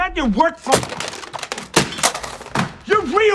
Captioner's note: phone smashing